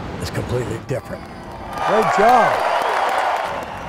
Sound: crowd cheering

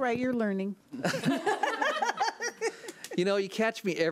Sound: laughs

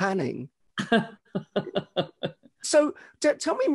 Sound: laughs

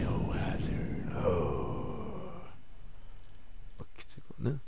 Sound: breath

